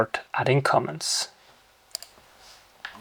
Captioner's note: keyboard clicking